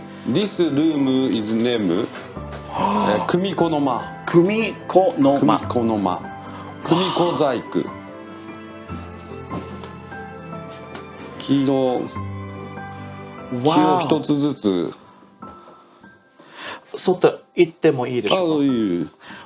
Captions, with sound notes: This room is named Kumiko Noma. - Kumiko Nomak. - Kumiko Zayaku. King of Chitotsu-su. (speaking foreign language)